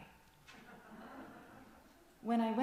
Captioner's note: gasp from congregation